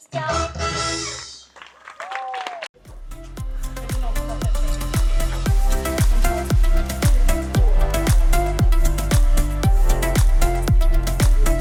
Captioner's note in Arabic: تصفيق